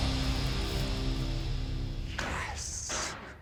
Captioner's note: whispering